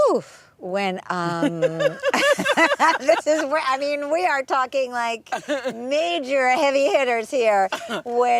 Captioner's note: laughter